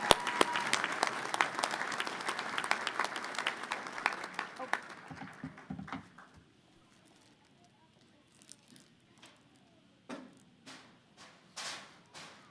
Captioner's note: cheers and applause